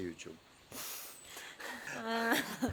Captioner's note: chuckles